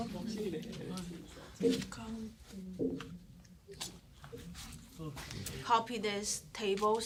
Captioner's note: student murmur